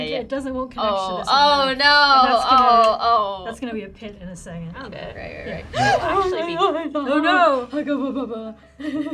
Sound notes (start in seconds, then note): 5.6 gasps